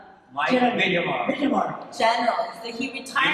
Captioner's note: chatter